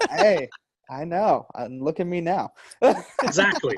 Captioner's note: laughing; laughs